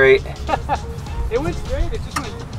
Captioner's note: laughter